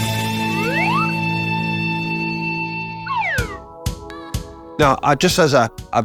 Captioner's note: upbeat rock music; slide whistle toots